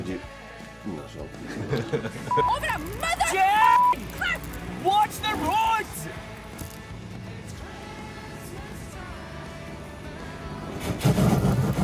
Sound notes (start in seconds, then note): 4.9 shouting; 8.7 loud scraping sounds of car hitting the road